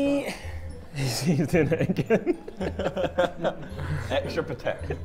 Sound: Sidemen laughing

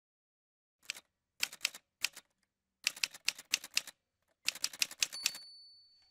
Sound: typewriter sounds

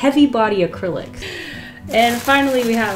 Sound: deep inhale

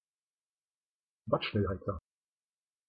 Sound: fast Pronunciation

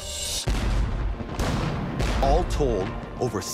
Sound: guns banging

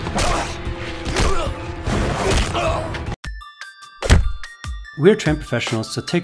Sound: dramatic music; punching and kicking sounds

